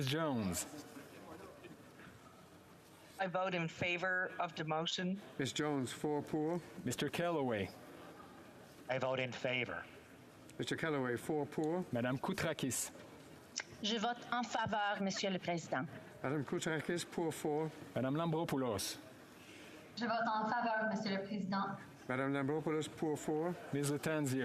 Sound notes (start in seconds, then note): 18.2 speaking French